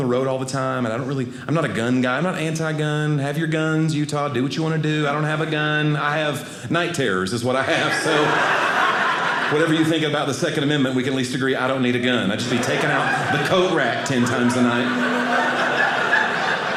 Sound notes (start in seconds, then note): 7.6 audience laughing; 15.3 audience laughing